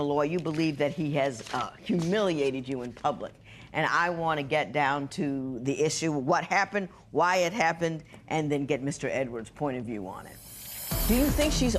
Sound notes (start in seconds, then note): none